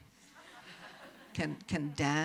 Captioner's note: audience chuckles